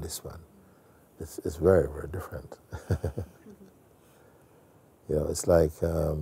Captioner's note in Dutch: grinnikt